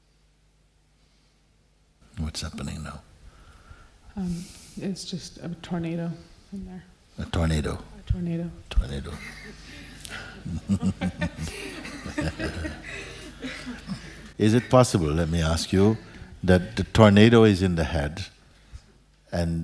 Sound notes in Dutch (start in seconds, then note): 11.8 gelach